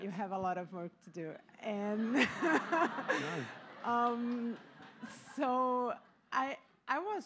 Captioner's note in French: Rires